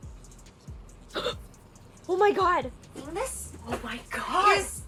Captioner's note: gasps